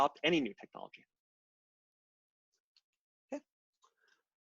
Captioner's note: silence